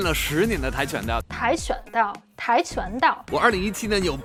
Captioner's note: speaking in Mandarin